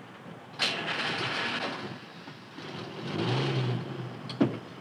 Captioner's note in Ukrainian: скрип дверей машини; прокручування двигуна